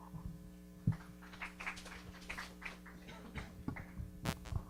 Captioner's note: audience applauding